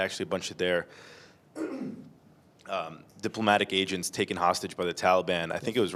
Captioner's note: clears throat